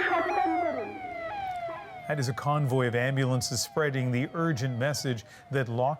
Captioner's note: sirens